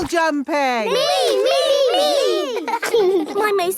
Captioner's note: laughing